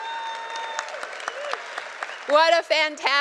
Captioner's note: cheers and applause